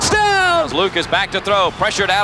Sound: voiceover

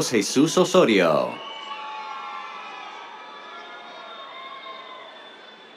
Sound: cheers

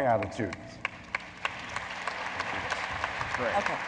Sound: audience applauds

